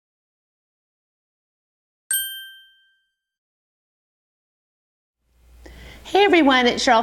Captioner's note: ding